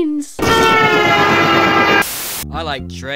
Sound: train honks

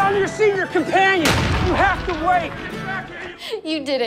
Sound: gunshot

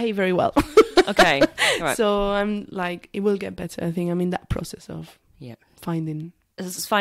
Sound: laughs

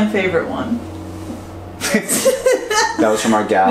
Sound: laughing

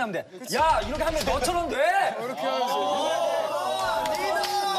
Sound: confident

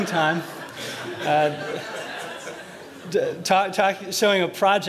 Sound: laughter

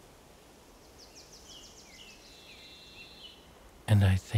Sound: birds singing

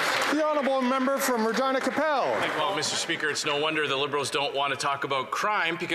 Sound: some Applause

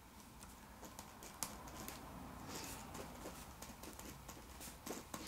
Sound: pen scribbling on paper

